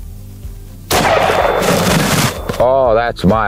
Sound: gun shot

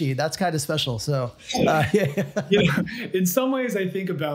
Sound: both laugh

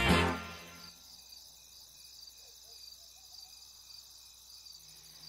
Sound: upbeat music; crickets chirping

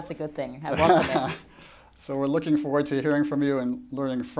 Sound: chuckles

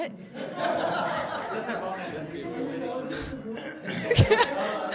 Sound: laughter

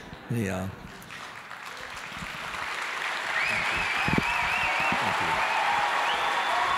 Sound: audience applauding vigorously

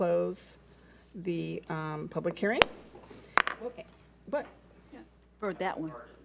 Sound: gavel bangs

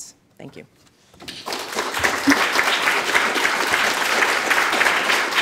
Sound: audience applauding

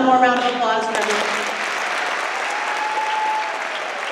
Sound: applause

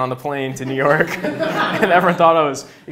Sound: laughs

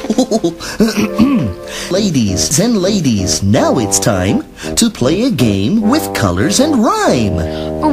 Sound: clears throat

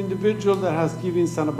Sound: speaking foreign language

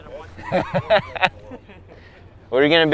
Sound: laughter drowns out speaker

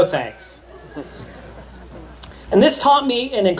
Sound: laughter

